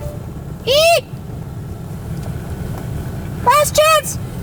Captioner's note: squeaking